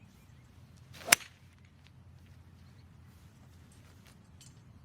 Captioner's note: golf ball thwacking